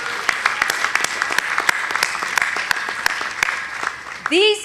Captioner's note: audience applauding